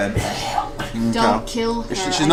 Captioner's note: hisses